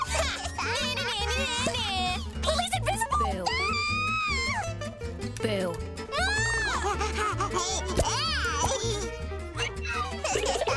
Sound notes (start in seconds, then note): 3.5 squealing; 6.1 screaming; 6.2 laughing